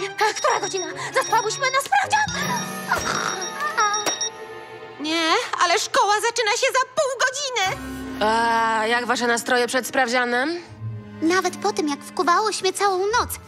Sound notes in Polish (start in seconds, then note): 2.9 chrapie